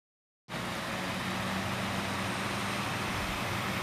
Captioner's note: fan buzzing